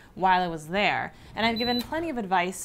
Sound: beep sound

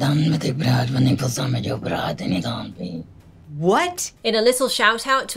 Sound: speaking in Lilim in a deep voice

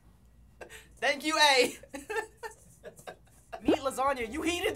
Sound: chuckling

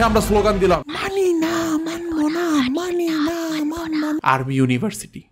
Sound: whispers

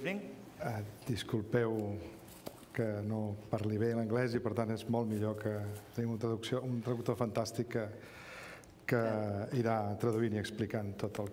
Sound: speaking catalan

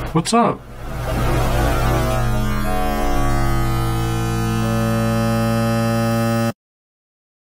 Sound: distorted noises

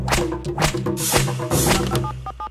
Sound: dialing phone number

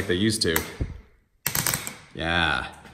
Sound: faster switch clicking noises

